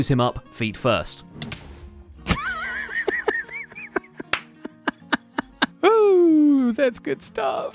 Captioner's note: explosion; surprised laughter, clapping